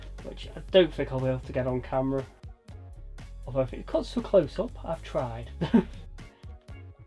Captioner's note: laugh